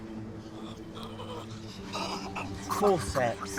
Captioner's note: soldier gasping